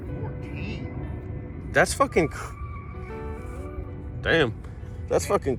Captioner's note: loud tires screeching